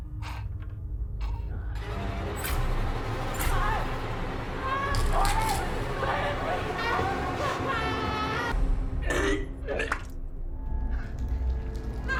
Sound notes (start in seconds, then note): 0.1 tense music; 2.7 dramatic music; 7.5 screaming; 9.1 Jordyn retching; 11.0 intense music